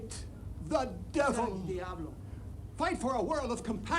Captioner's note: speaks in foreign language